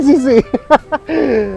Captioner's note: laughs